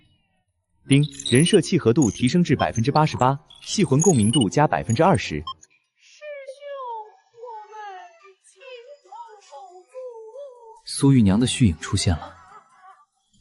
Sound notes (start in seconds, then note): 1.0 ding!